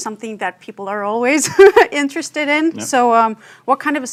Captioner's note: chuckles